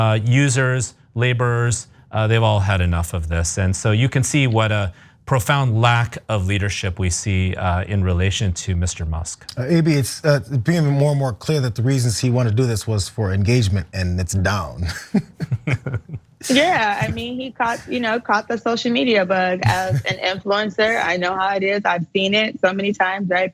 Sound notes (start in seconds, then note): 14.4 laugh